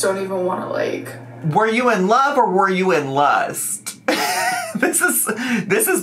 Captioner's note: laughs